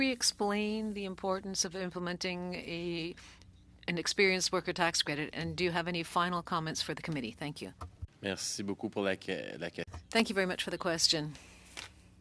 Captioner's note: speaking French